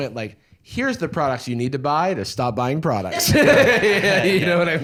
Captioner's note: laughs